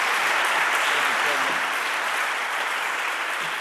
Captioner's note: audience applauding